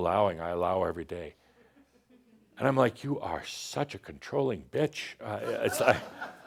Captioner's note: some laughter